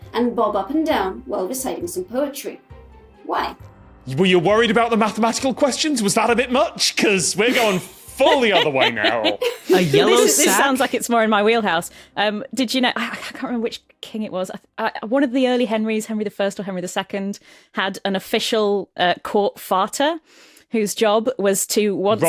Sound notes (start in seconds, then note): 7.4 giggles